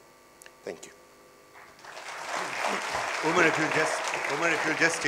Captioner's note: applause